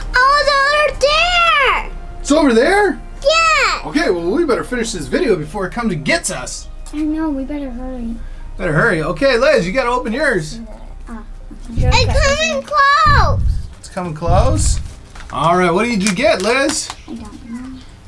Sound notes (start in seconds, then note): 12.8 booming footsteps